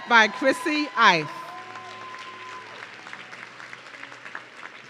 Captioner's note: audience cheering